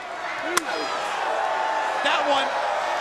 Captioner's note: crowd cheering; chop striking